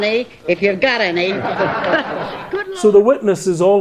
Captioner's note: courtroom members laughing